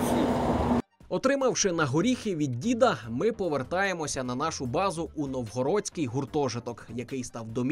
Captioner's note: voiceover